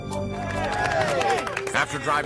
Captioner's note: cheering